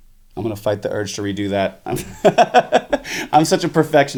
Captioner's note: laughs